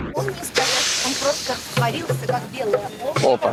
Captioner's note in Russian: люди говорят на русском